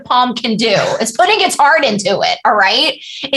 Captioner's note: laughter